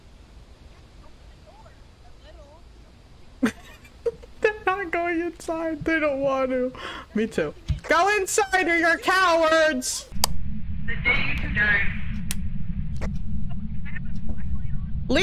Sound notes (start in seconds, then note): 0.7 faintly arguing about the door; 3.4 laughs; 11.1 over Radio